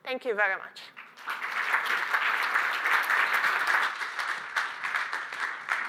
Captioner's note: applause